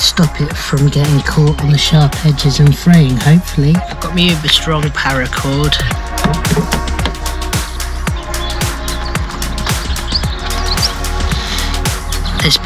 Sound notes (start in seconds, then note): none